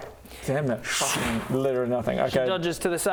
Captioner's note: sczzzuum